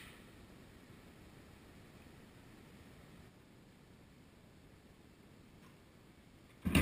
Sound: silence

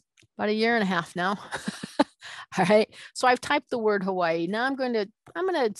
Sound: laughing

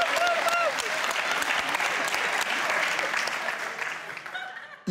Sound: audience applauds

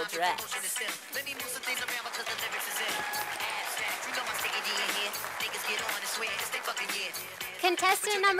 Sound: sound of applause from audience

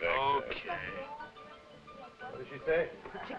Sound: Chiquita speaking foreign language

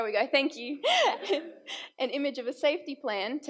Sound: laughs

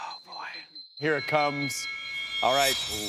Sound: chiming

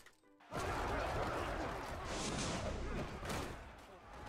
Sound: yelling and crashing; cheering

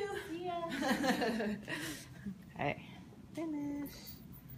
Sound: laughs

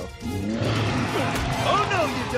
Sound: roaring

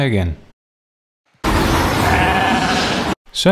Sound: wind and bleat

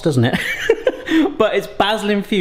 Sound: laughs

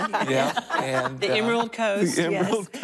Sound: laughter

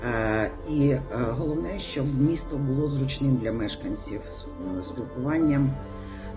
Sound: continues speaking Ukrainian

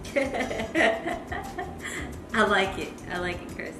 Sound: laughing

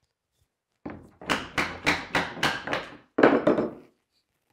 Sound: mallet bangs

